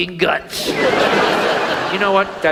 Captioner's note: audience laughs